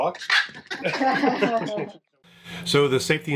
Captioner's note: laugh